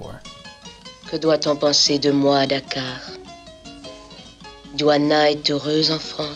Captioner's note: Diouana speaking in French